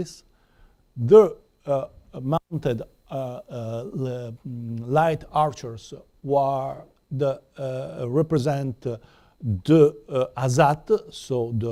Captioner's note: non-english